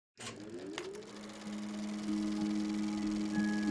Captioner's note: projector whirring